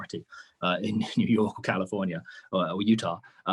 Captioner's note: chuckles